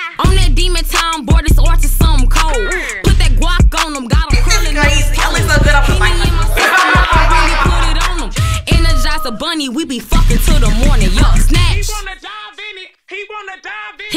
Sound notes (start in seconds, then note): 4.4 indistinct chatter; 5.3 indistinct chatter, laughing